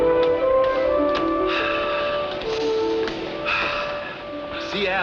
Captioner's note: deep breathing